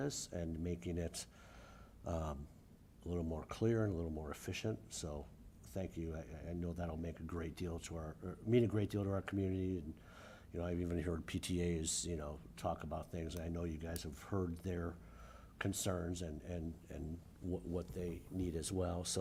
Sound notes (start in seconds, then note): none